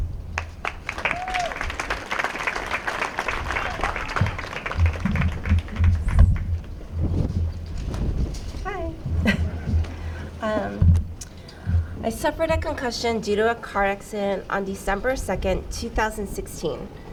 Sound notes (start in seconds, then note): 0.3 applause; 9.1 laughs